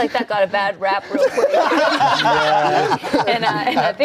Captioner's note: everyone laughing